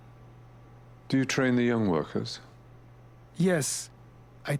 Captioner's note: voiceover